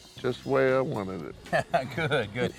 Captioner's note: laughs